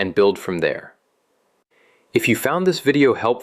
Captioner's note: pause